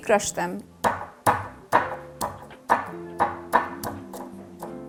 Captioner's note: pounding ingredients